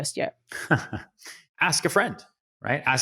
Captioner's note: Ryan laughs